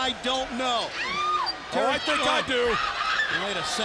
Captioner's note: screaming